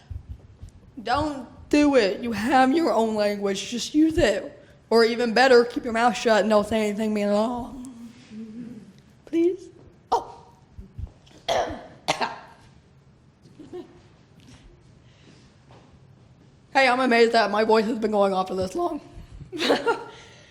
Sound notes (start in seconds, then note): 11.4 coughs; 19.5 laughs